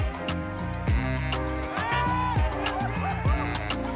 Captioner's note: cheers